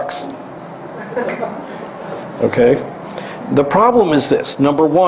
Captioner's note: laugh